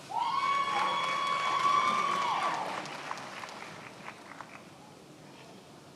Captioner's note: attendees applauding and cheering